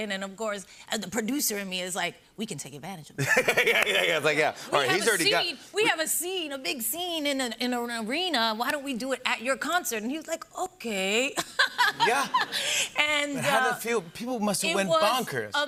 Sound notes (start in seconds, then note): 3.2 laughing